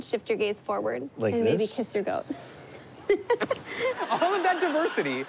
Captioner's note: laughs